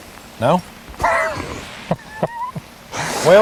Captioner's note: laughter